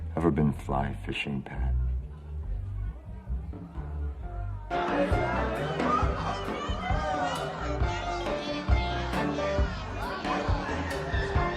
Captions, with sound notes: - Ever been fly fishing, Pat? (patrons chatter) (upbeat music)